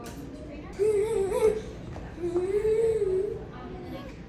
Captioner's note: excited noises